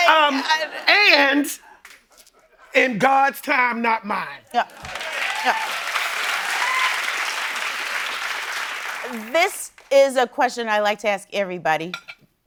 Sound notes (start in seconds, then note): 4.6 cheering and applause